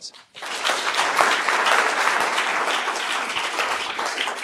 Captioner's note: applause